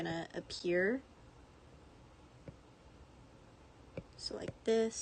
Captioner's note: aggressive background AC sounds I forgot to cut out